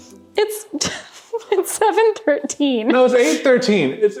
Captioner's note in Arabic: تضحك